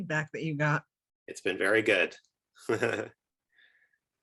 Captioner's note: chuckles